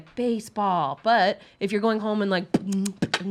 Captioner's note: beatboxing